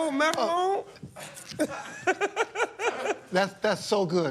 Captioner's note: laughter